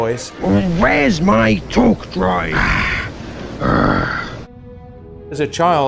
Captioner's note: grumbling